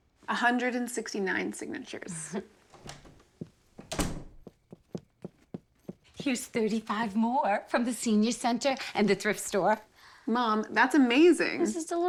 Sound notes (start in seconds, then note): 3.7 door closes; 4.8 footsteps